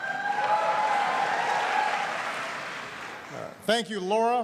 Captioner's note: applause